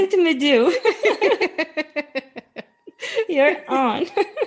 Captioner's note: laughing